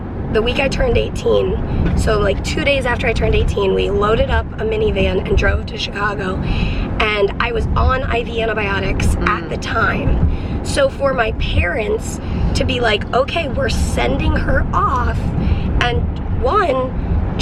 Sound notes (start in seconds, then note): none